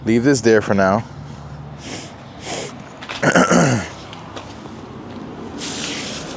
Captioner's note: clears throat